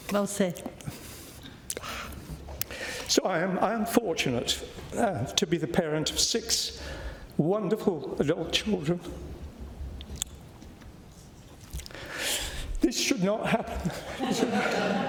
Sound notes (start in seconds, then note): 10.4 voice breaks; 13.6 laughter